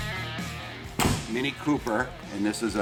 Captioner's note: upbeat music; door bangs